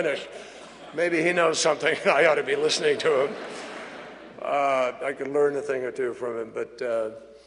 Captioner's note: laughter